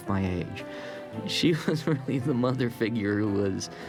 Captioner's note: chuckling